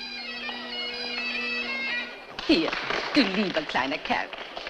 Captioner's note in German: Applaus